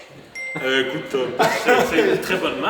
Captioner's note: laughters